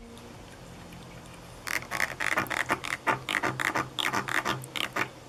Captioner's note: fish creaking